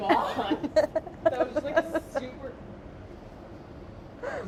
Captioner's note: laughing